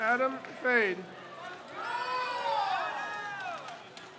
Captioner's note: crowd cheers